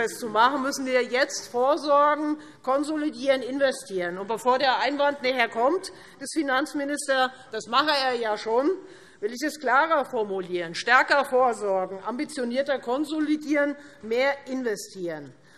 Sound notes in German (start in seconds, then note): none